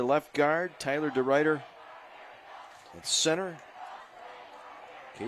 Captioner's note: applause